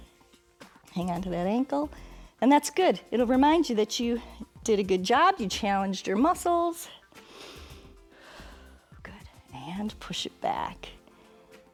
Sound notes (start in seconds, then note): 7.1 inhales and exhales